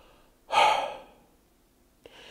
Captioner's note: sigh